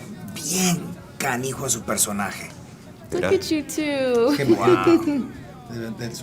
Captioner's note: laugh